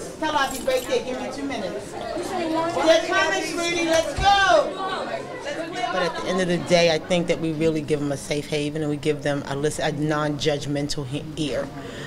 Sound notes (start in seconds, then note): 0.0 student chatter; 1.8 student chatter